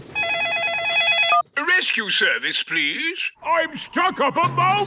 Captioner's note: phone ringing